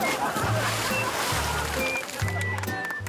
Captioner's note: laughter